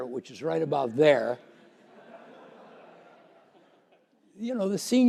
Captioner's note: laughter